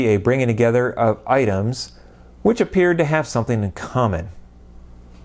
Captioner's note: none